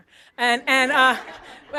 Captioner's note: laughter